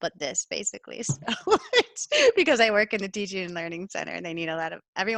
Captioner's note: laughter